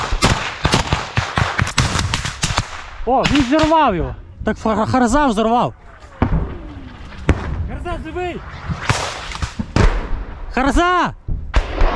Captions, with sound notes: [Grenade exploding] – Oh, someone blew them up. "Hrza" must've thrown a frag. - "Hrza", are you alive? – "Hrza"!